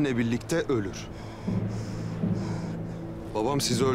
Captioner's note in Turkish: Nefes sesi